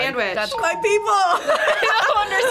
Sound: laughs

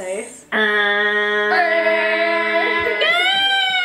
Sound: buzzer sound

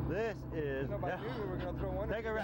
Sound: panting

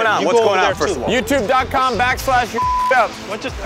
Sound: beep

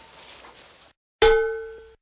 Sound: ding!!

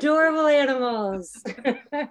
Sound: chuckling

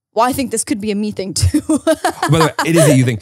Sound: laughs

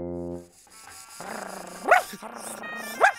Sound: barking

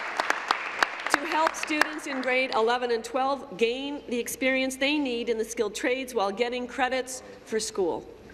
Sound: applause

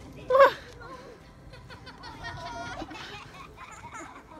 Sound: people laughing

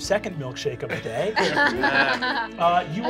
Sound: laughs

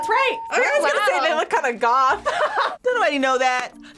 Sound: laughs

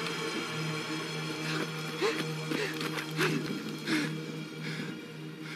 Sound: panting

